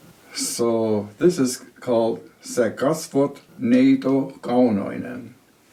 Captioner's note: speaking Finnish